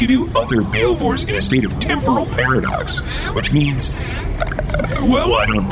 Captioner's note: stuttering